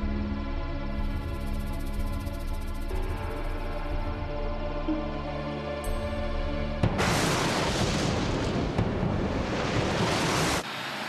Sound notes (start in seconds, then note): 6.8 thundering